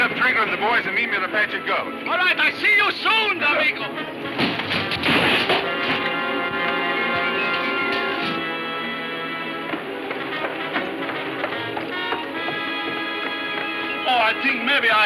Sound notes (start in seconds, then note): 1.7 speaks foreign language; 4.3 wood crashing; 5.7 ominous music